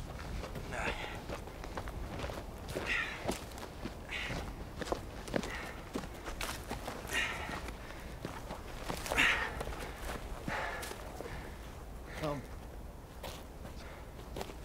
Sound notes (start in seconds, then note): 7.1 panting